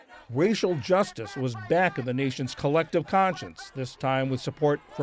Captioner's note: voice-over